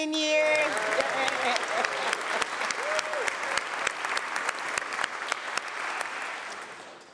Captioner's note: applause